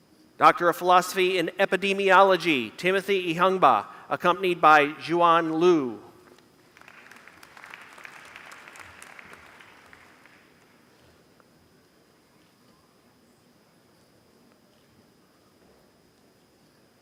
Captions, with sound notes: Doctor of Philosophy in epidemiology. (Applause)